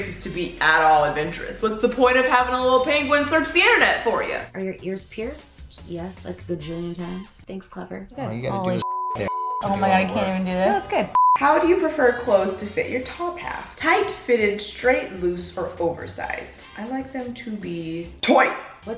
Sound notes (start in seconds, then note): 8.8 beep